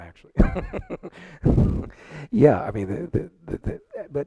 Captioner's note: panelists laughing